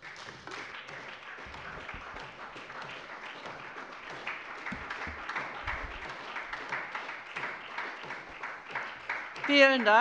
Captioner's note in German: Beifall bei der SPD